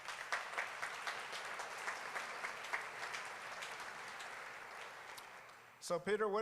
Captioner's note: applause